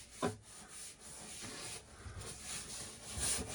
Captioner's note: scrubbing